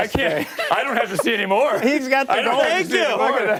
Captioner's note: laughter